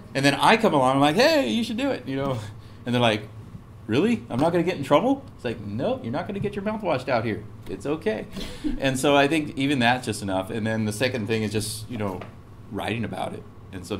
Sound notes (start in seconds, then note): 8.4 laugh